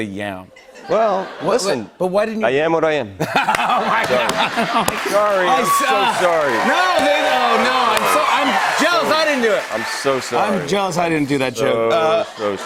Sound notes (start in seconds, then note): 3.2 laughter; 6.3 cheers and applause; 11.8 laughter